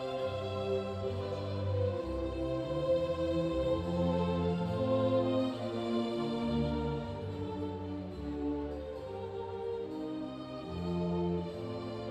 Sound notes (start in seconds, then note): none